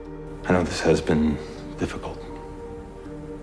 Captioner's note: voiceover